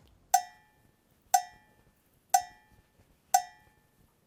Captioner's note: clock ticking